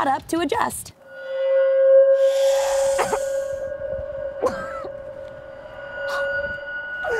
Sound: ominous music plays; coughs

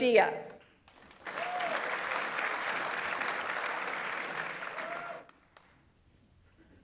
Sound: audience applauds; audience member cheers

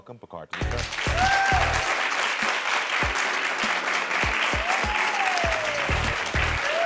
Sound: upbeat music; audience applauds

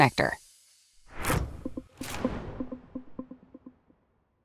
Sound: transition wooshes

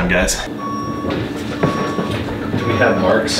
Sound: back up beeping

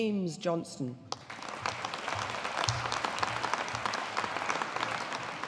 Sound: audience applauding

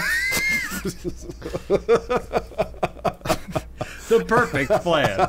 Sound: laughing; wheezing

